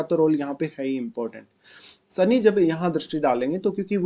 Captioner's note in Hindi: नाक से की जाने वाली आवाज़